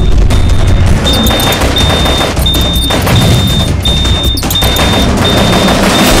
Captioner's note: Alarm blaring